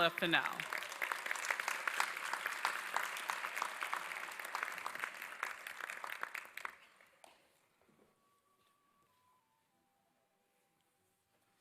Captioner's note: applause